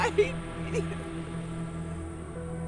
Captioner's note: woman sobbing